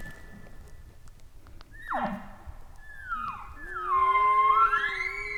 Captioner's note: caller bark bugling